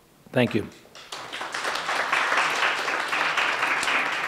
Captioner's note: applauding